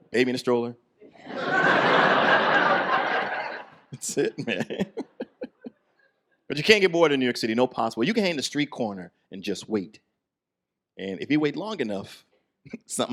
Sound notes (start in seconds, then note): 1.2 audience laughs